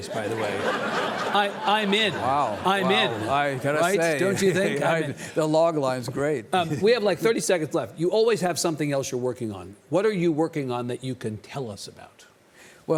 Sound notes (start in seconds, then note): 0.0 audience laughing; 4.8 Lawrence chuckles